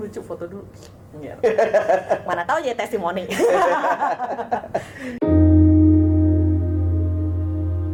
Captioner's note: laughs